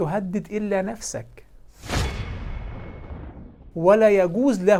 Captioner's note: sound effects